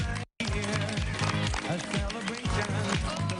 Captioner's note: applae